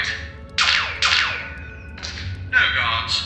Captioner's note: two laser shots